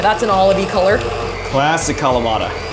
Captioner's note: mixer whirling